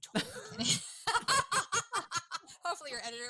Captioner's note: laughs